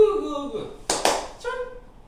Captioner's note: clap clap